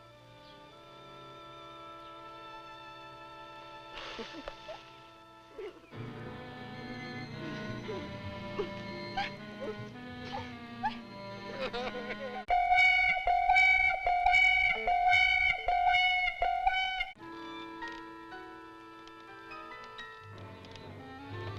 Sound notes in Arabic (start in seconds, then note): 6.3 جيني تضحك; 6.3 ماريو يضحك; 12.3 موسيقى مشوقة; 17.4 موسيقى درامية مشوقة